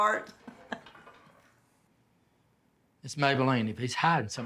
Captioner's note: Maybeleen chuckling